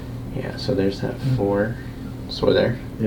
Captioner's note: patient grunts